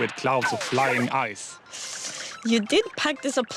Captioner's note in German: zittert und klappert mit den zähnen